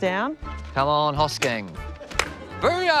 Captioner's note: laughter